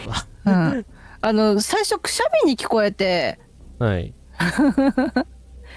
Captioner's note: laughs